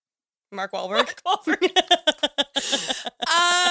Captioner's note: laughs